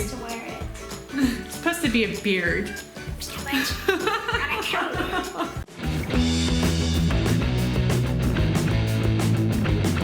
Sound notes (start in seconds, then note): 3.5 laughter; 6.6 light rock music